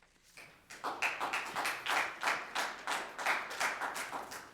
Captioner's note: audience clapping